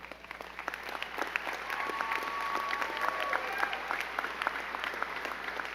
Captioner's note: crowd clapping and cheering